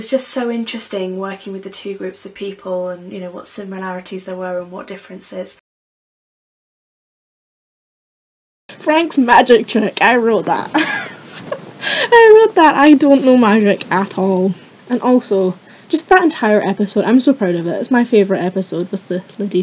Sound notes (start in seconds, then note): 10.7 laughs